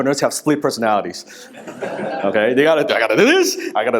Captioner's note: audience laughing